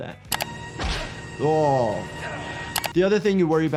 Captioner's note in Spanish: Golpes de puñetazos